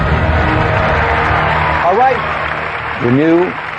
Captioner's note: applause